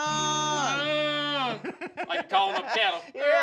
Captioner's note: laughing